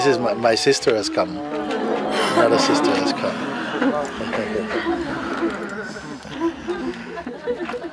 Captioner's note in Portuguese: sons de alegria